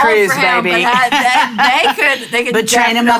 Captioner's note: laughing